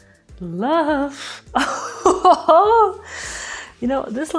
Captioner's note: laughs